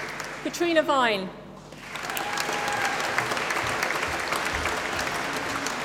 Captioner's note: applause